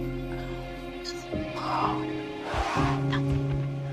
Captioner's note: elephant snorts